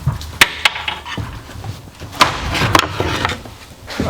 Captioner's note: none